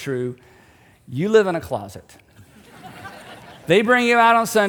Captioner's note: audience laughing